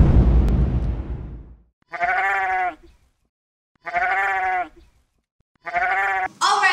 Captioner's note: sheep bleats